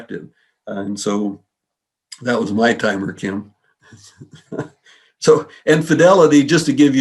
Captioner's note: laughs